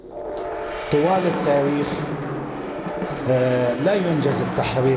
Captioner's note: Sayyed Hassan Nasrallah speaking in Arabic, over drum and cymbal solo